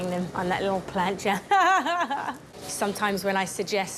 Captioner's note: laughs